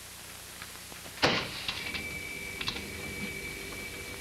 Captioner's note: boiler switches on loudly